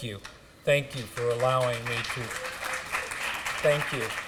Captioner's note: applause